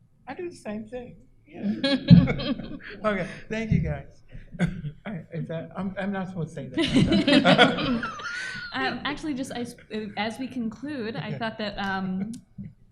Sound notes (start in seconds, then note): 1.6 laughs; 6.7 laughter